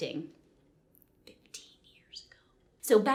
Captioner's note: whispers